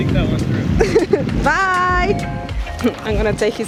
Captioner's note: laughs